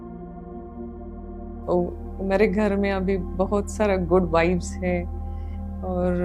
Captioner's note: in Hindi